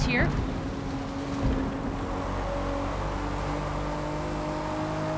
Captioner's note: engines roaring